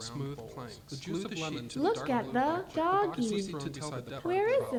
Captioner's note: voiceover